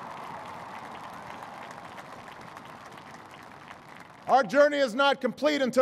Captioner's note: applause